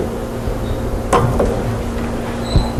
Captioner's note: glass thuds